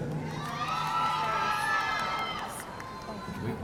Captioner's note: audience cheering